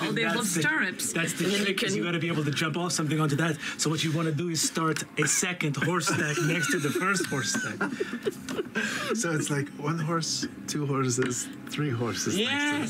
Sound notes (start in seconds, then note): 8.5 laughter